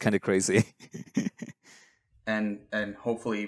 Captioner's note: laughs